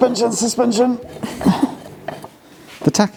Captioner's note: laughs